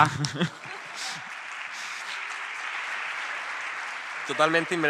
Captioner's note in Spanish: Aplausos